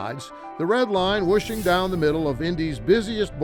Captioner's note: graphic whooshes